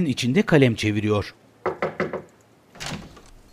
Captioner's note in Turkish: Kapı vurulma sesi